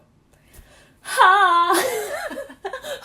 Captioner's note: yells; laughs